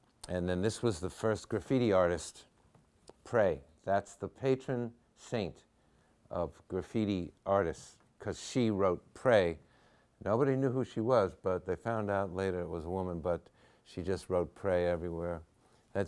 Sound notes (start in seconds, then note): none